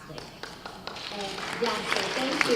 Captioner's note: applause